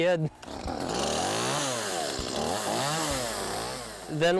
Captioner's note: motor revs up